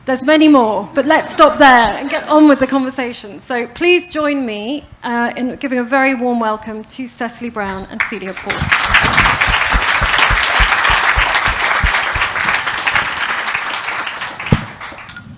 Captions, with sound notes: There's many more, but let's stop there and get on with the conversation. So please join me in giving a very warm welcome to Cecily Brown and Celia Paul. (applause)